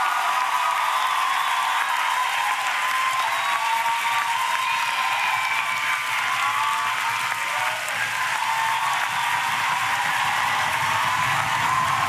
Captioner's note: applause